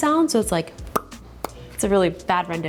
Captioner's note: imitates popping